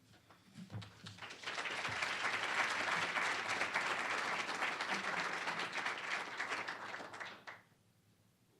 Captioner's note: applause